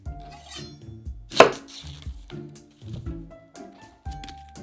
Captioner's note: knife cutting